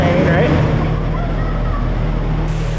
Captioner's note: laughs